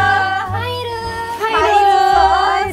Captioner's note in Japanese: わいわい